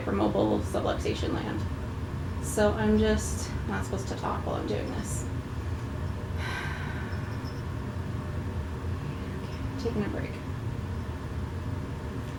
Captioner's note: sighs